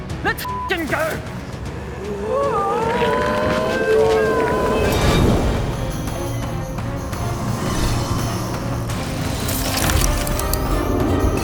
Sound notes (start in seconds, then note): 2.3 regretful noises increasing